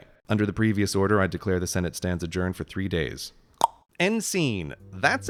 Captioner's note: plop